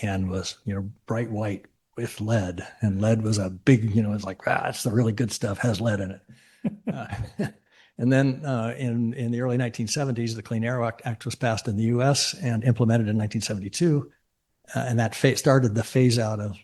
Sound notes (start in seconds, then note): 6.6 chuckle